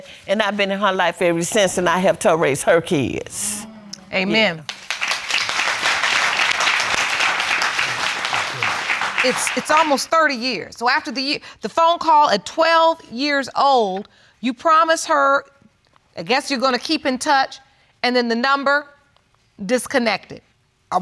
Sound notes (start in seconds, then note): 4.4 audience clapping